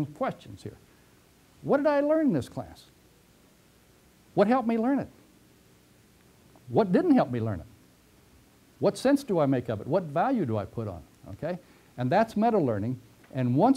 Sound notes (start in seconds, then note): 3.5 pause; 5.9 pause